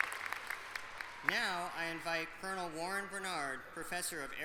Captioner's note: applause